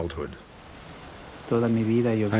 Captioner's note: speaks foreign language